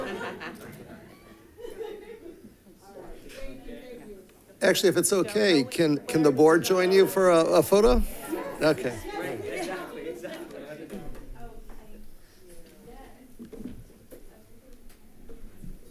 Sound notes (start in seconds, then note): 0.0 attendees laughing; 9.9 people chattering and scurrying